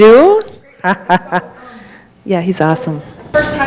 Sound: laughs

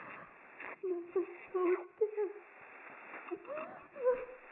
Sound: woman whimpers

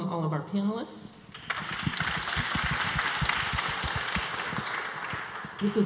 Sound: audience applause

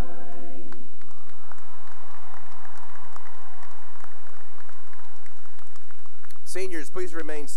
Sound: cheering and applause

